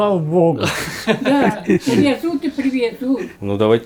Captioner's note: laughing